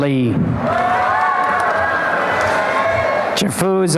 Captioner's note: applause and cheering